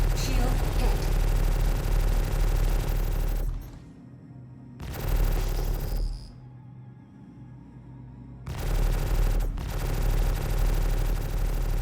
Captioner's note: gun fires